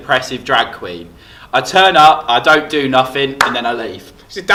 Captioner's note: claps